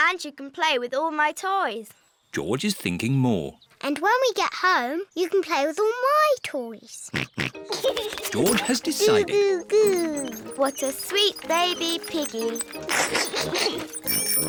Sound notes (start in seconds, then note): 7.4 snorts and giggles; 13.5 giggles